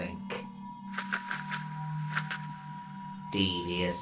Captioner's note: wings flapping